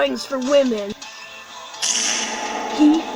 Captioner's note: reverb fart